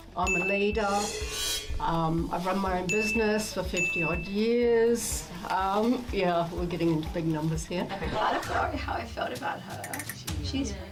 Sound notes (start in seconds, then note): 0.2 bell dings; 2.8 bell dings